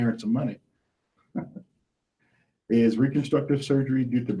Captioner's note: laughs